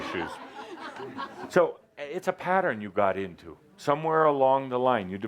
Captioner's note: laughter as he shields his eyes